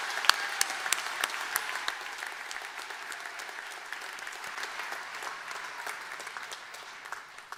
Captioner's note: applause